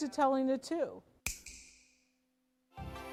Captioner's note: snaps; lively music